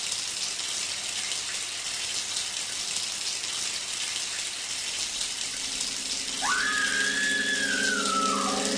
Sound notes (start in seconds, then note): 6.4 screaming